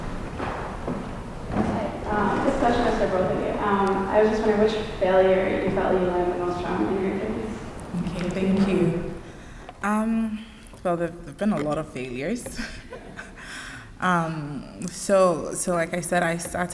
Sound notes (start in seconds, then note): 12.4 chuckles; 12.5 laughter